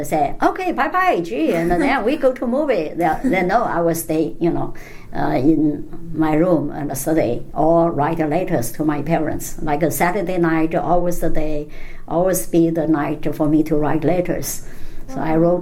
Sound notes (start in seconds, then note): 1.4 laughs